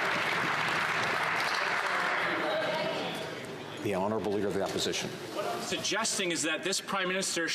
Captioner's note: some Applause